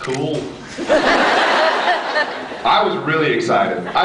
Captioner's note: laughs